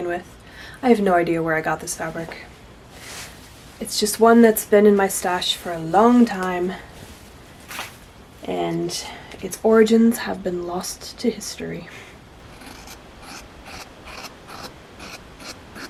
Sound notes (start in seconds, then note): 11.6 snickers; 12.5 satisfying scissors sounds